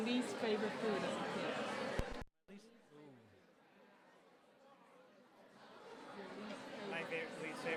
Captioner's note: silence